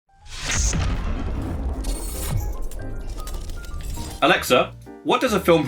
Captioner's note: exploding; jazzy music